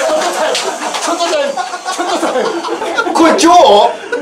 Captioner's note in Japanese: 笑い